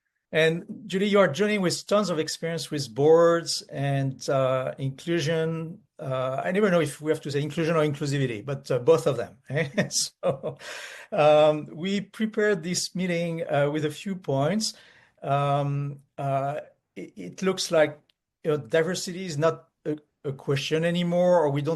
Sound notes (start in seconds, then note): 9.5 chuckles